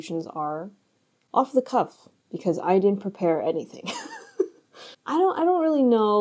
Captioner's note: laughs